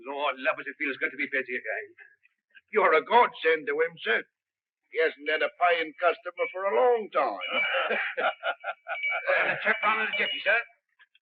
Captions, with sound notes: Lord, love it, it feels good to be busy again. You're a godsend to him, sir. He hasn't had a paying customer for a long time. (both chuckles) I'll have the trap on in a jiffy, sir.